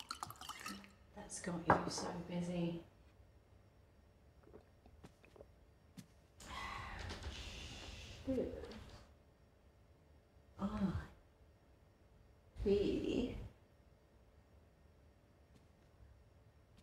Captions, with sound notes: (flirty noises) You are... ...clearly...